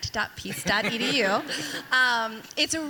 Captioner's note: people laughing